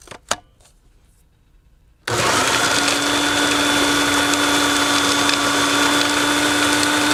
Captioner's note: blender whirls